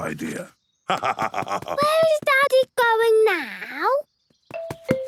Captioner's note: laugh